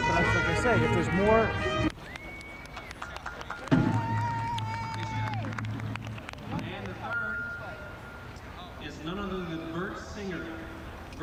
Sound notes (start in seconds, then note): 2.0 cheering; 4.2 clapping